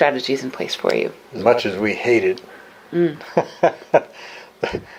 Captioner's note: laughs